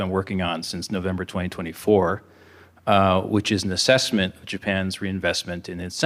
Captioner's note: coughing